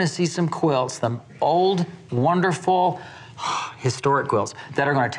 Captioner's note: exhales